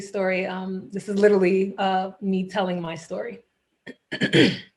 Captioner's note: clears throat